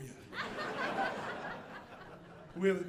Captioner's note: audience laughing